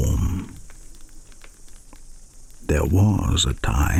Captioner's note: fire crackling and night insects buzzing